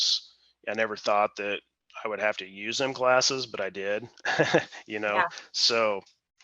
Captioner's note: chuckles